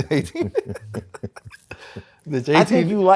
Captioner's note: laughs